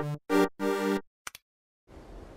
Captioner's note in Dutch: klik